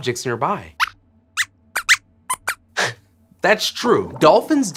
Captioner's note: squeaks squeaks